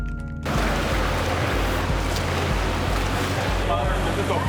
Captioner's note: water splashing